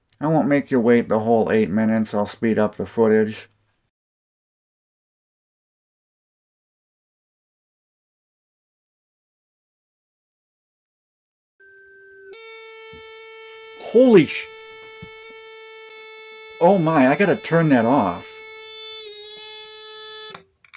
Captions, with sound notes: I won't make you wait the whole 8 minutes, I'll speed up the footage. [buzzer sound] Holy sh [annoying buzzer sound] Oh, my, I gotta turn that off. [horrible buzzer sound]